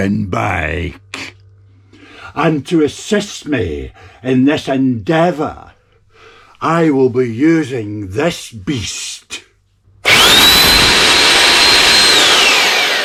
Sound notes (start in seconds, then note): 10.0 loud Drill Noise